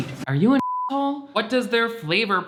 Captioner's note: beep